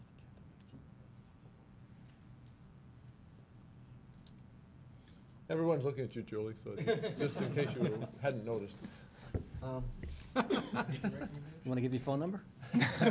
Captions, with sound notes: ANSWER. >>: EVERYBODY IS LOOKING AT YOU , JULIE. IN CASE YOU HADN'T NOTICED. [CHUCKLING] >>: WANT TO GIVE YOUR PHONE